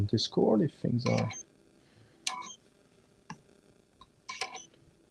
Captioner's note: beeping